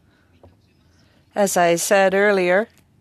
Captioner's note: speaking French